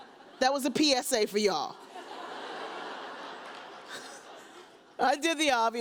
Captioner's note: audience laughs